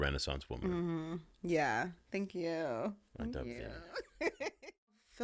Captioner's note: laughing